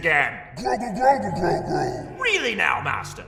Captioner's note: argumentative